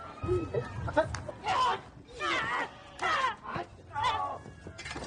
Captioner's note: actors grunting